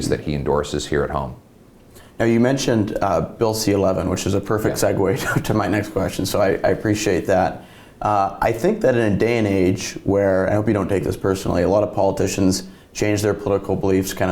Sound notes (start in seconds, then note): 5.1 chuckles